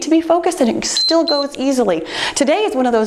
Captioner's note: timer beeps